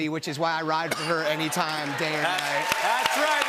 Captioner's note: cheers and applause